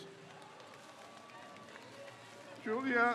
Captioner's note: crowd cheers